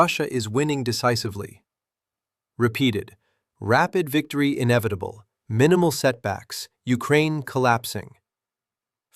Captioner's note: sarcastic